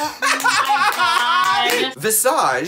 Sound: laughs

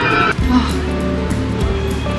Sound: sigh

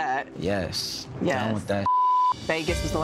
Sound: beep

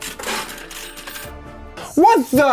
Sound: change dispensed sound effect

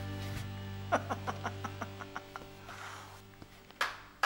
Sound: laughs

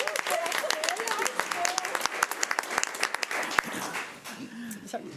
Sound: audience clapping

